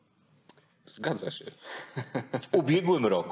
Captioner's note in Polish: śmiech